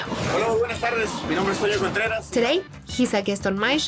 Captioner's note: speaking Spanish